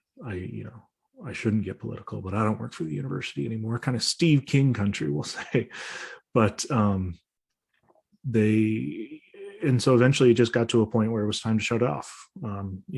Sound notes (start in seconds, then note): 5.2 chuckles